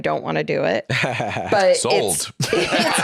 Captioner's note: laughs